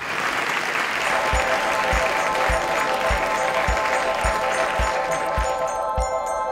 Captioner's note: applause